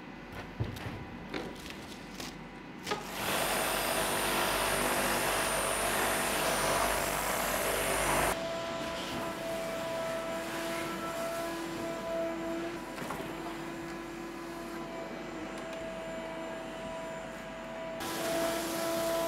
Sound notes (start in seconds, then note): 3.0 power tool buzzing; 9.5 vacuum buzzing